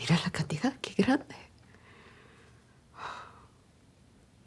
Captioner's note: widow speaks Spanish